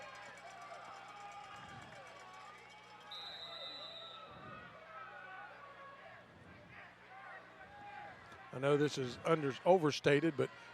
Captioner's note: applause